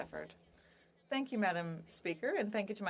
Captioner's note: speaking French